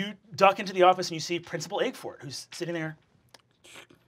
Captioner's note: slurps